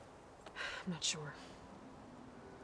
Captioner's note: sigh